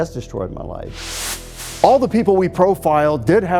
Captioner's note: air whooshes